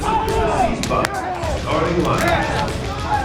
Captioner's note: cheering